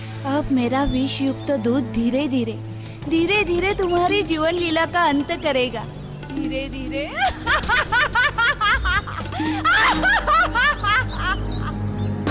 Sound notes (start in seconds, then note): 7.1 laughs